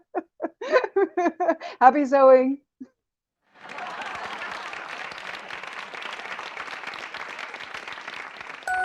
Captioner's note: applause